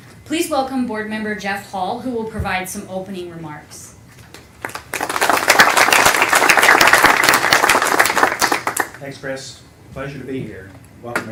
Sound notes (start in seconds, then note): 4.6 applause